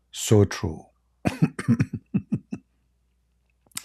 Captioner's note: Ketawa